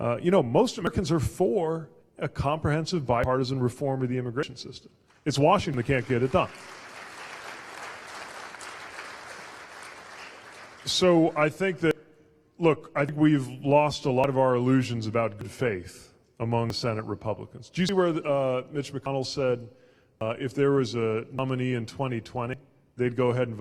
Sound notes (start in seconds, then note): 5.6 applause